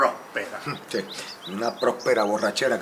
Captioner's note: clear his throat